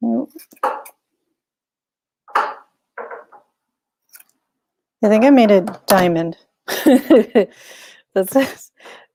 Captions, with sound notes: (table bangs) I think I made a diamond, (chuckles)